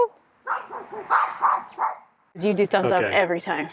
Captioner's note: dogs barking